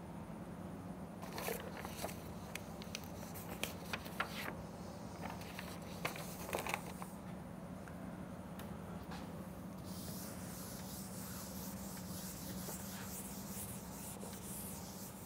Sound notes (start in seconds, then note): 10.5 friction